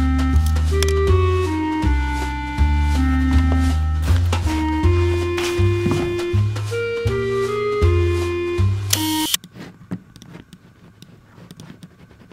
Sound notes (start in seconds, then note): 8.9 sound of camera shutter clicking